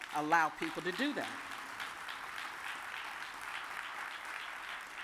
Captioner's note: audience applauds